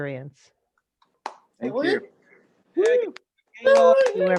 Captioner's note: cheering and applause